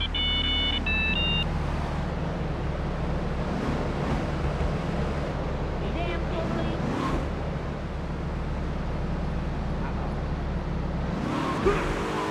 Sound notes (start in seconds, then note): 0.0 beeping; 7.1 engine revving